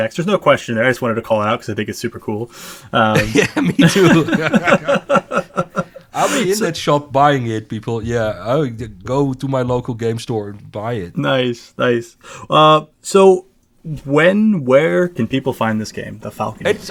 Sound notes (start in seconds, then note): 3.0 laughs